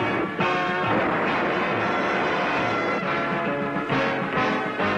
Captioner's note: dramatic music; automobile roaring; dramatic music